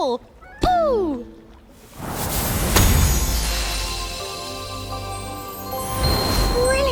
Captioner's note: magical whoosh